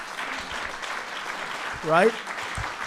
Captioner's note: applause